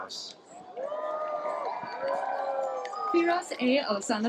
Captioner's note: cheering, applause